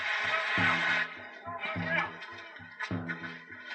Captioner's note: sound of police officers in the distance